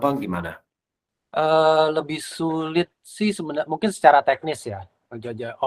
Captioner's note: non-english speech